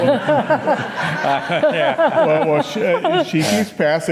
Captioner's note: audience laughing